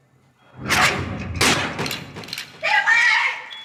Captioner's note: gun fires